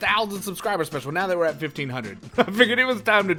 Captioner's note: laughter